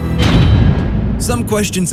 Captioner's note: metal clang